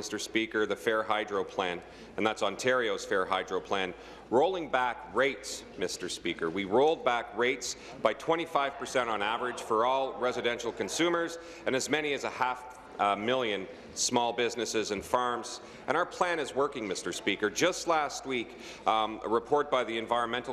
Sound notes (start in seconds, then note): none